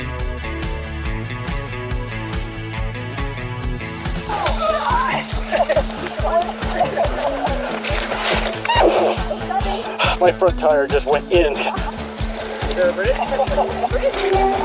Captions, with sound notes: My front tire just went in [laughing] Is there a bridge?